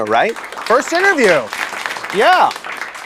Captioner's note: applause